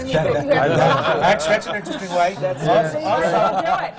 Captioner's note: laughs; laughter from the panel